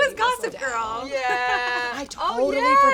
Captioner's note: laughs